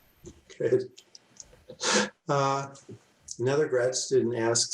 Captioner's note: laughs